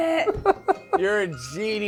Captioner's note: laughs